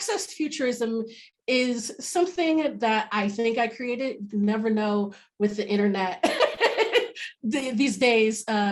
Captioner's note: laughs